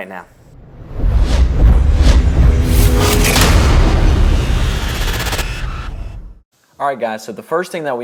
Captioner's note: sound effect